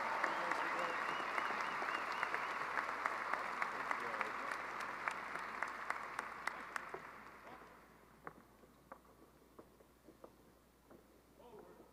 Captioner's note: applause